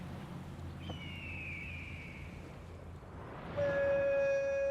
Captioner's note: hawk calls